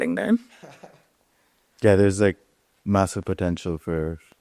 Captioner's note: chuckles